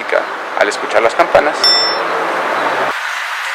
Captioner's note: riing